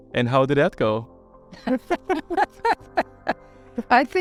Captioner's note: laugh